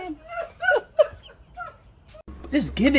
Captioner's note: laughter